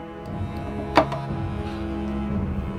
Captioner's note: piece thuds